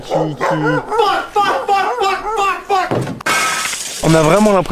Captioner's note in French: bruits de verre qui se brise